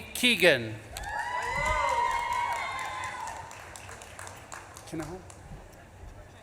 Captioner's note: audience claps and cheers